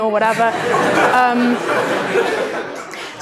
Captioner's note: laughter